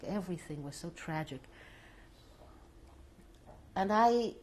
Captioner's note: pauses for 3 seconds